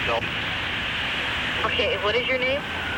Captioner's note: on phone